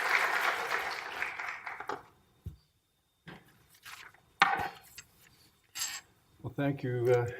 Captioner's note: applause